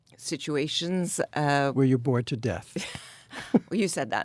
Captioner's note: Anna and David laugh